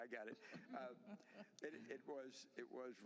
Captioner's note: laughter